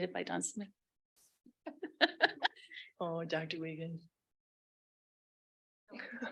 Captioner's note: laughs